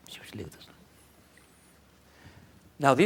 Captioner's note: foreign Language